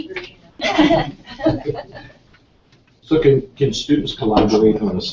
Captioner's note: chatter